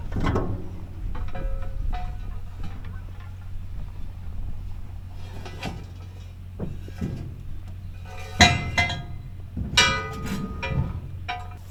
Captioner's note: fireworks setup sounds